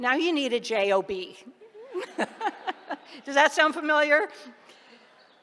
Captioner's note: laughter